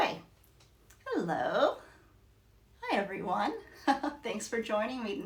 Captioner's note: chuckles